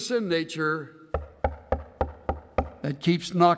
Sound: knocking sound

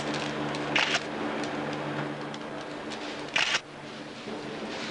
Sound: camera shutter clicking

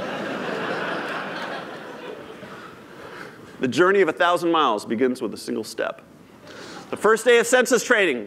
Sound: laughter

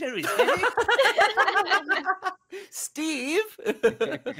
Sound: all laughing

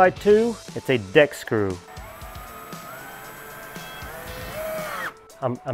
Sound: drill whirring

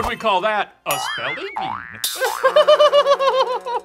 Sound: laughing

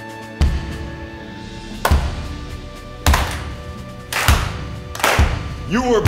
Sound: clapping

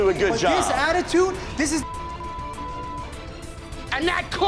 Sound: beeping

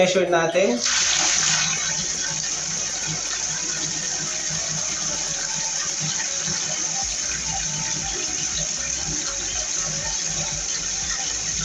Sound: water splashing

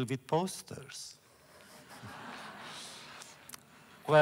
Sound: laughter

